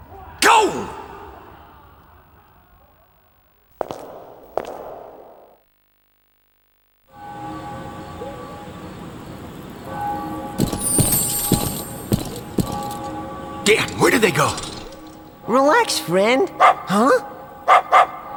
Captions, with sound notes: Go! (Bell tower ringing) Damn, where did they go! Relax, friend! (Barking)